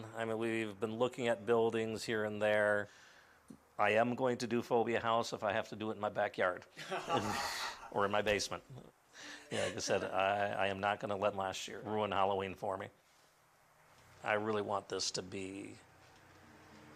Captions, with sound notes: WE'VE BEEN LOOKING AT BUILDINGS HERE AND THERE. I AM GOING TO DO PHOBIA HOUSE IF I HAVE TO DO IT IN MY BACKYARD. -[LAUGHS] -OR IN MY BASEMENT. AS I SAID, I AM NOT GONNA LET LAST YEAR RUIN HALLOWEEN FOR ME. I REALLY WANT THIS TO BE--